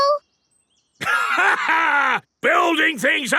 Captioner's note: laughs